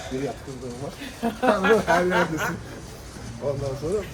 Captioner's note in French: rires